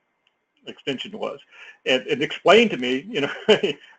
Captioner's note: laugh